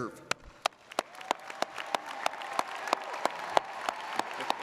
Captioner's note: audience applauds